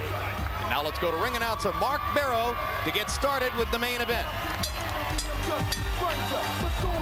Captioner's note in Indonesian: Tepuk tangan